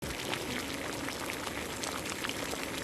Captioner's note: sizzling sound